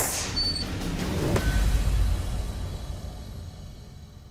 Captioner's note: whoosh, clang